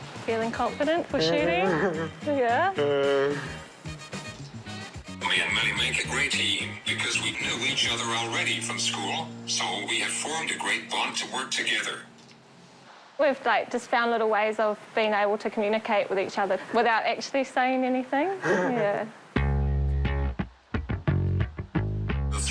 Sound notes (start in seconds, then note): 1.2 grunts, chuckles; 1.3 grunts; 19.4 electric guitar music